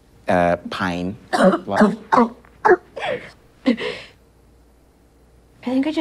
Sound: coughs violently

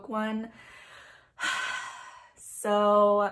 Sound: another big sigh

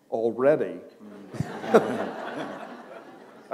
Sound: laughter

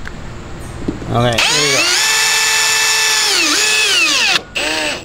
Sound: power drill runs

